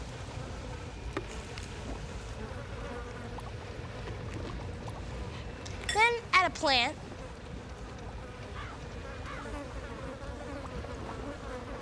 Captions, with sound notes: [ INSECTS BUZZING ] THEN, ADD A PLANT.